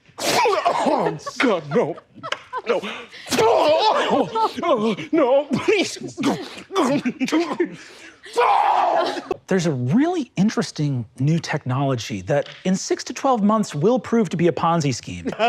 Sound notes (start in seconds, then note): 0.1 sneezes real hard; 3.2 sneezes infernally; 6.6 sneezes the soul out of himself; 6.6 sounds of being exorcised